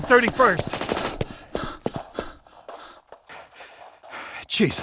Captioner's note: gun shots, panting